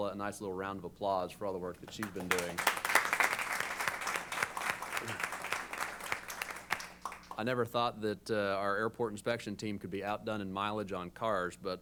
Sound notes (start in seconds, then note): 1.8 applause